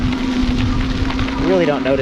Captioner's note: motor revving